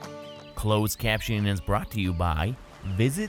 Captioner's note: birds chirping; light acoustic music